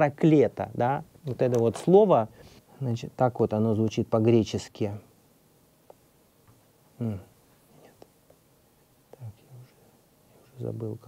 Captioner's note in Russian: тихой голос